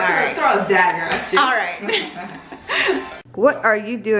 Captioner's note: laughing